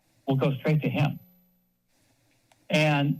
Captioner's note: pause